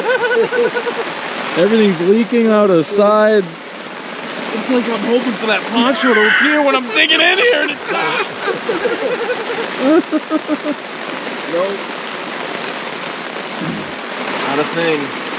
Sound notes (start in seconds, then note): 0.0 all laughing; 10.0 laughing